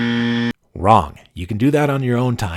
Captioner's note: buzzer